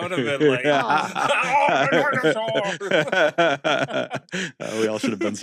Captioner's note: vaguely bad Sean Connery impression; laughs